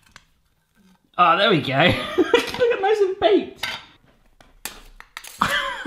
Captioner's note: laughing